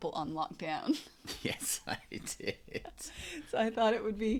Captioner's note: laughs